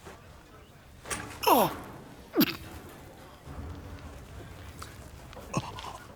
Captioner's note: groaning